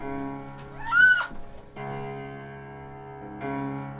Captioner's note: Alice shrieks